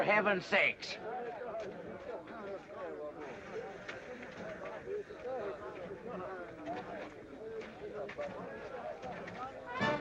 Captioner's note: crowd murmuring; lively band music